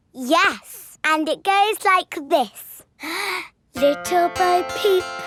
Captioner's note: inhales